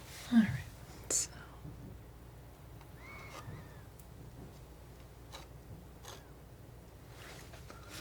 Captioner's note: scratching